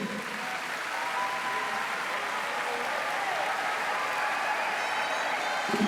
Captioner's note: applause